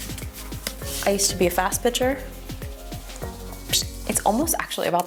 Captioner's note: hums